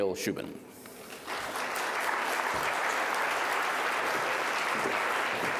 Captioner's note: audience applauding